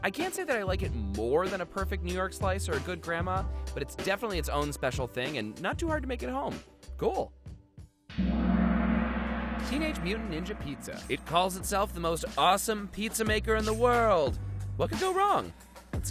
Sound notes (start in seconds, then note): 8.1 gong crashes